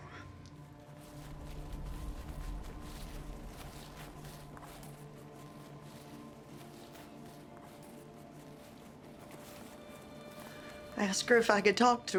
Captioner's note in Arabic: فلاش باك، خطوات